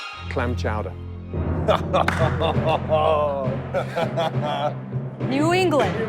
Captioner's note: laughs